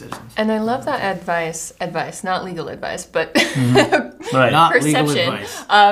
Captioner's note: laughs